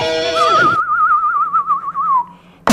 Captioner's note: whistles